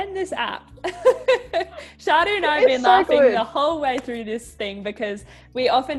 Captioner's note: both laugh